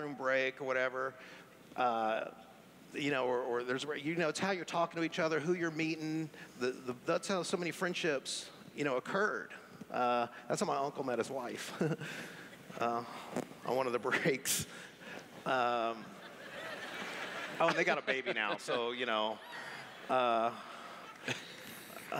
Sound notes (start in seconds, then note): 12.0 laughs; 15.9 laughter